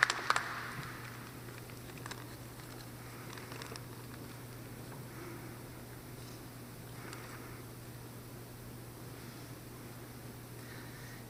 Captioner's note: applause